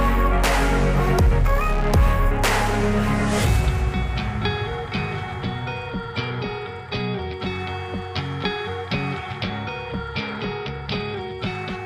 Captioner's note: clap